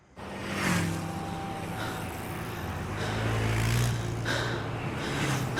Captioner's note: vehicles passing